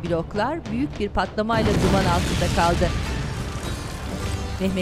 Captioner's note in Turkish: Patlama sesi